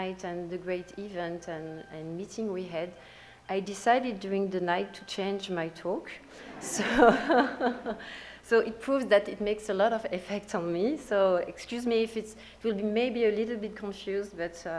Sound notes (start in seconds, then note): 6.3 audience laughs; 6.3 laughs